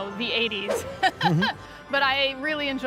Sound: laughing

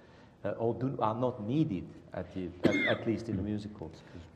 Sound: cough

